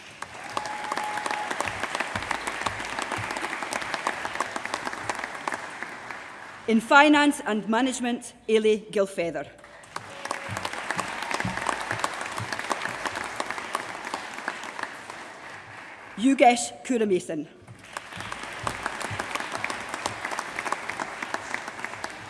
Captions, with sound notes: [APPLAUSE] In Finance and Management. Eilidh Gilfeather. [APPLAUSE] Yogesh Kumaresan. [APPLAUSE]